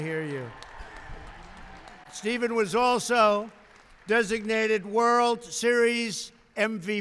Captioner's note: applause